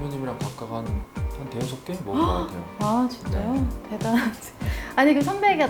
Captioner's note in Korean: 놀람